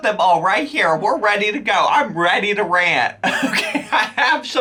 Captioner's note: laughs